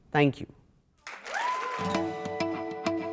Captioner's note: applause